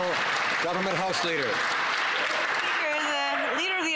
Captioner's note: some Applause